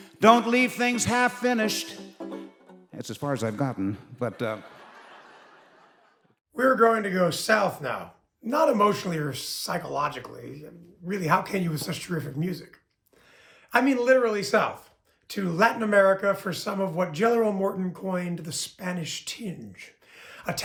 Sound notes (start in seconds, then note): 3.2 audience laughing